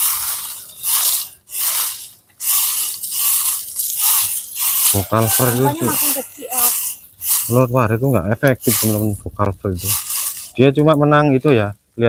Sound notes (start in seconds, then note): 2.3 sweeping